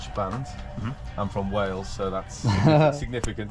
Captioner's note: laughs